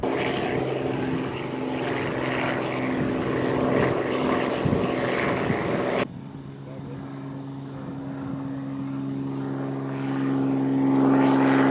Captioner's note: helicopter and plane sounds